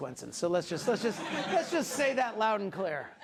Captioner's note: class laughing